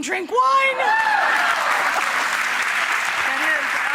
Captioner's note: audience applauding